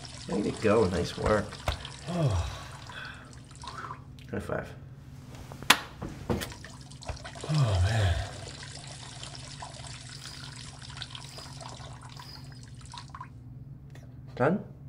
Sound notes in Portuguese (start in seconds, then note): 1.8 suspiro; 3.8 Som de urina para